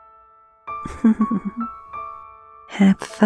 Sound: playful laughter

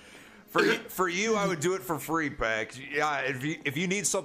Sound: laughs; stammers

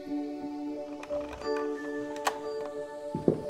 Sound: keys turning in the lock

